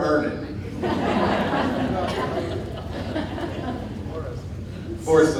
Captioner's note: audience laughing